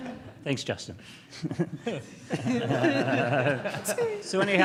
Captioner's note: laughing